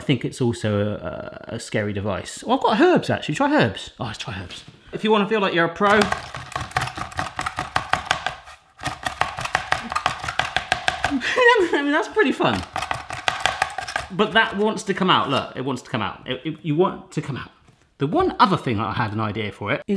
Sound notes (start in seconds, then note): 5.9 chopping; 11.0 laughs